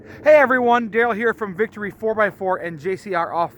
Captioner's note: none